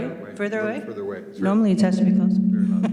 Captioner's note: voice echoes